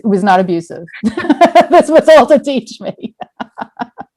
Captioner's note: laugh